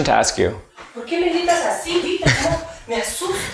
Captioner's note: speaking Spanish; laughing